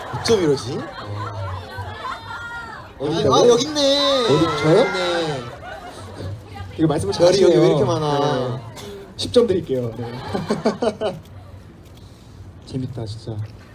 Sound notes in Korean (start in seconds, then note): 10.0 웃음; 13.0 웃음